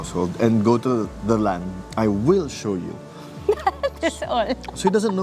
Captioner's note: laugh